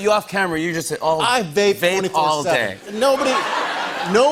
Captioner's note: laughter